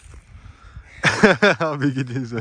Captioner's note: laugh